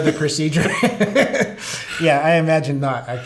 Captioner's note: laughter